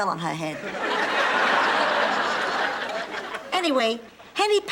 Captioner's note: audience laughing